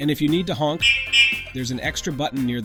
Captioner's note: horn sound